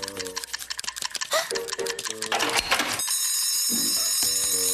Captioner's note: gasps; bell ringing